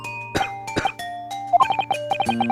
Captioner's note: cough